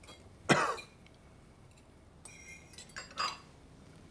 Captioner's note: Tommy coughs